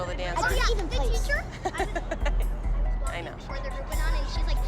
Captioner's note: chuckles